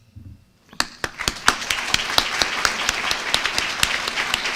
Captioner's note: applause